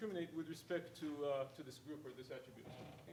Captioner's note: speaking faintly